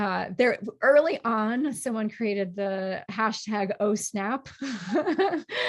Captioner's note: laughs